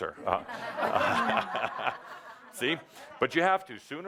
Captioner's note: laughter